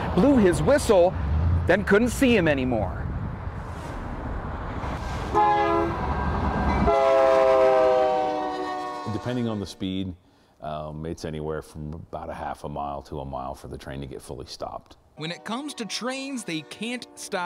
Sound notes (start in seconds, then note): 6.6 nat -- train horn